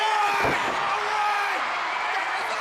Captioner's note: crowd cheering